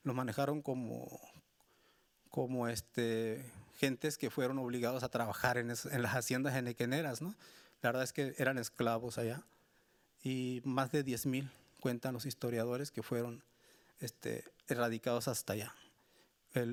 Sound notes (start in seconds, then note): 11.5 speaking Spanish continues